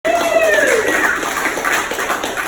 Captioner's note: audience applauds